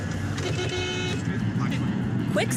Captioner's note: horn honking